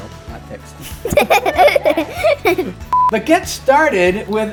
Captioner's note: both laugh